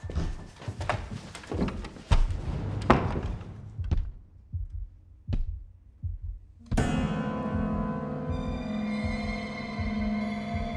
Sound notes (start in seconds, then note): 0.0 feet pattering; 3.9 heartbeat thudding; 6.7 eerie music